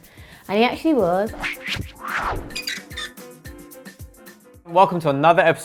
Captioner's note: logo whooshing